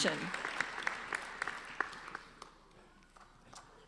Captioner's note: applauding